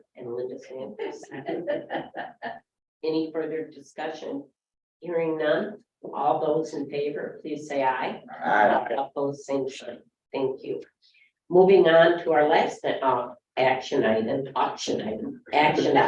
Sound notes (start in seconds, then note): 1.0 laughs